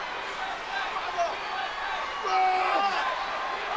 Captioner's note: audience chants